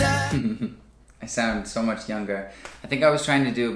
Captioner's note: laughs